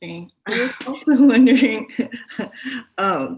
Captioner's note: chuckling